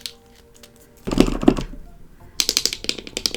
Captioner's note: squeegee, squeegee